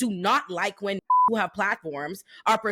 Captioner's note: beep